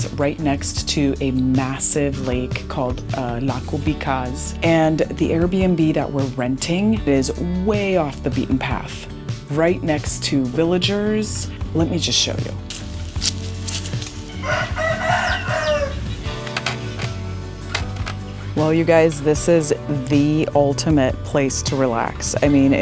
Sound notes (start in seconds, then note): 12.6 footsteps in grass; 14.1 rooster crowing